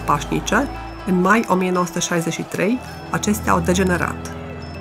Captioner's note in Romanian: oameni protestând